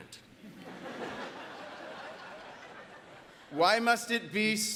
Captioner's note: audience laughs